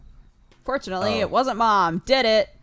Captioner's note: cry